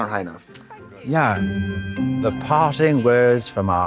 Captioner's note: festive chime